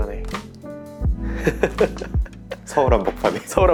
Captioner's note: laughs